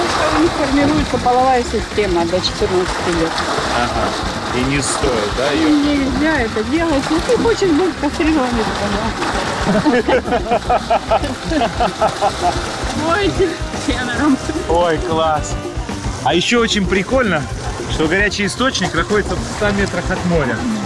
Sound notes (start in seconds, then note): 9.4 laughing